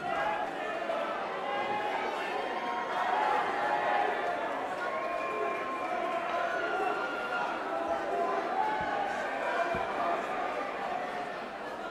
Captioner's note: crowd chatter